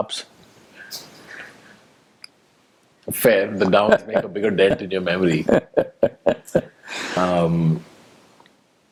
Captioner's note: Sadhguru laughs